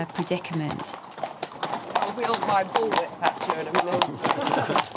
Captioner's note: background chatter